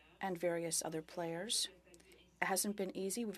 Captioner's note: speaking French